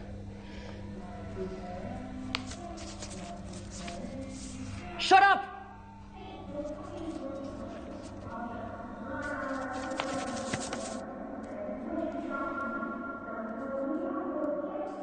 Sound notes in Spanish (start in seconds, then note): 1.8 Reclusa tararea La cucaracha; 6.2 Murmullo de la reclusa